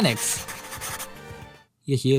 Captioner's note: writting sound